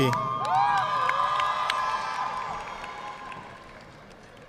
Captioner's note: audience clapping